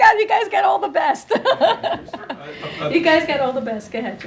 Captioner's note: laughs